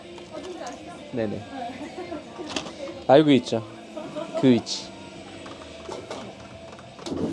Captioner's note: laughs